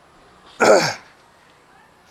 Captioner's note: cough